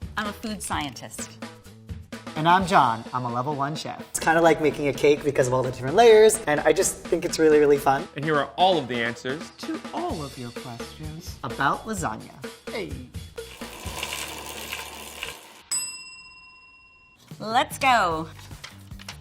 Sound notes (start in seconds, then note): 15.7 bell dinging; 19.0 upbeat music